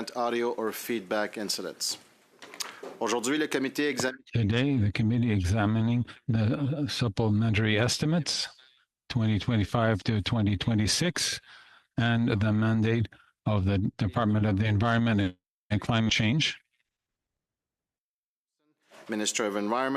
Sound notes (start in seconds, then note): 7.3 speaking French